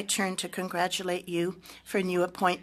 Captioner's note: speaking French